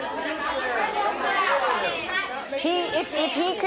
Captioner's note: audience chatter